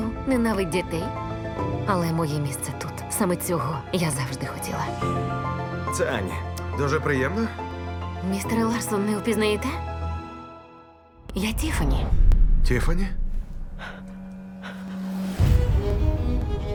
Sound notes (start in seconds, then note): 13.8 gasping softly; 15.3 dramatic string music plays